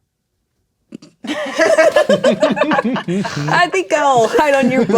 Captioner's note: players laughing